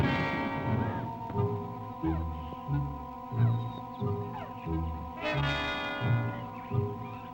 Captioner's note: birds chirping; mysterious music